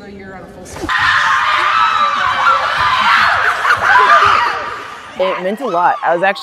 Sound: cheering

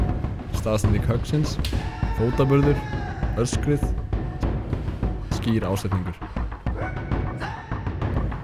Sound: kiai

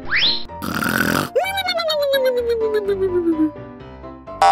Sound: loud sonring

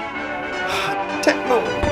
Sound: sigh

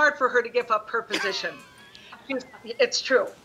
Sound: chuckling

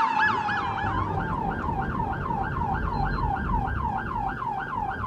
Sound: sirens wailing

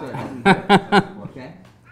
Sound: laughing

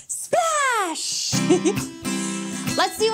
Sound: chuckles

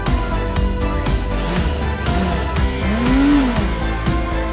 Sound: engine revving

